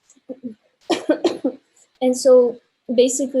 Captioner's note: coughing